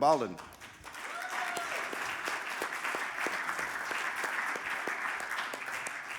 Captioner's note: audience applauding and cheering